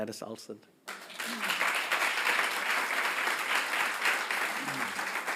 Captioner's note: audience applauding